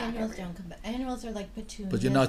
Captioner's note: voiceover